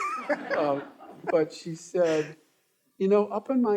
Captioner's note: all laughing